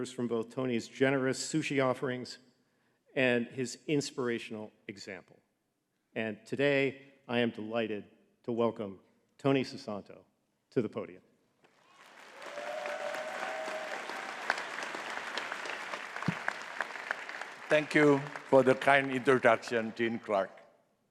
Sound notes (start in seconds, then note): 11.7 audience cheering and clapping